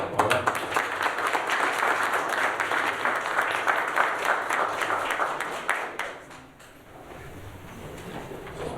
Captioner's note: applause